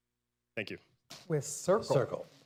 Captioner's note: laughter